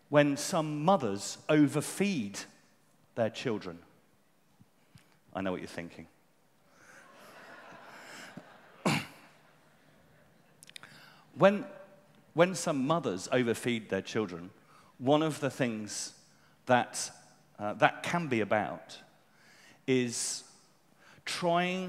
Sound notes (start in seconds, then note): 9.9 laughter